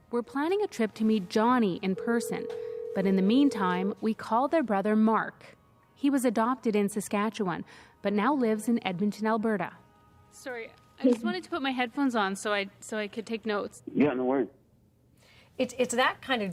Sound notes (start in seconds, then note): 4.7 ringtone